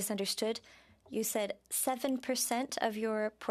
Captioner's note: speaking French